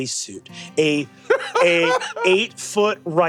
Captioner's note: laughs